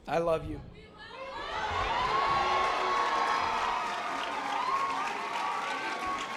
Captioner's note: members of the audience cheering